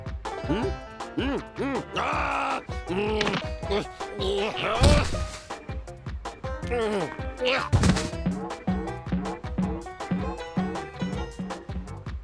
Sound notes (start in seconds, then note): 8.1 pumpkin boinging